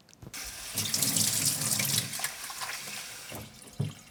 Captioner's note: running water